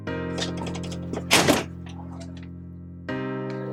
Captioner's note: door slams